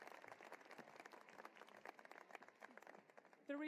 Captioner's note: cheering and applause